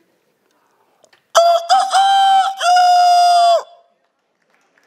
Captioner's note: makes the sound of a rooster